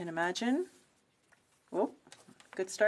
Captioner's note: speaking French